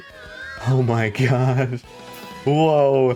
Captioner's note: laughs